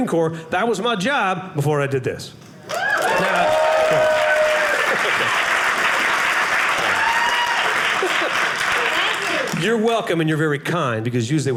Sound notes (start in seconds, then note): 2.6 audience cheering